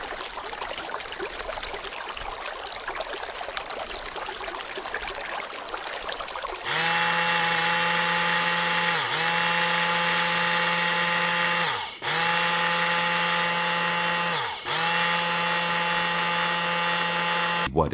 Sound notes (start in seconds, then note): 0.0 sound of a burbling brook; 6.6 sound of a running blender